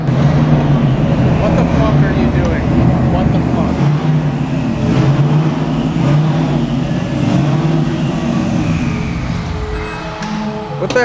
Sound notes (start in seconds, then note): 5.7 engine revving; 9.3 car stops